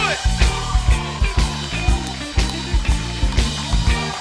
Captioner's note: cheers and applause